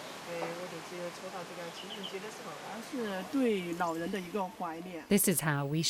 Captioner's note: speaking in foreign language